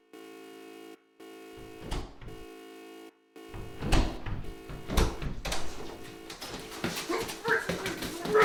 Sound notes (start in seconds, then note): 3.1 beeping; 3.5 door opens; 6.6 struggling noises